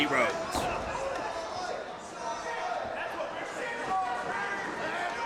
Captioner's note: crowd yells and chants